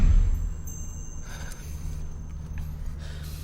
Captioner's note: sighs